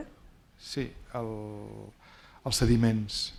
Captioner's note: speaking spanish